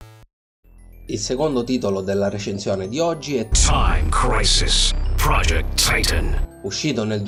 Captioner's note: voice from the game